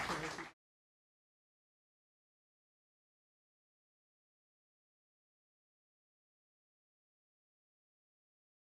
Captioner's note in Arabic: تصفيق; تصفيق; ضحك وتصفيق